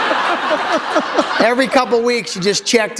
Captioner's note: laughter